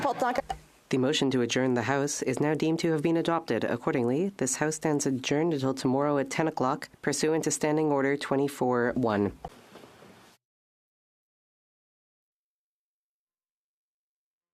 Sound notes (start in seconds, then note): 6.5 speaking French